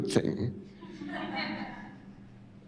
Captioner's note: laughter